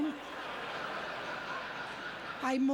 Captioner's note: audience laughter